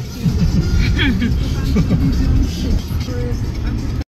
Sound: laughs

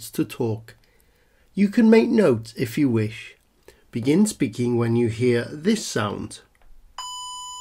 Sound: beep

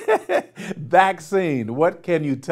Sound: laughing

